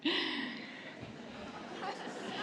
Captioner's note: laughter